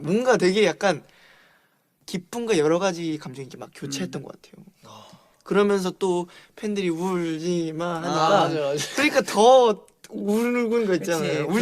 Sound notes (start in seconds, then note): none